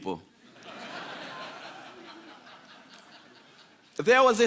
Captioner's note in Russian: Смех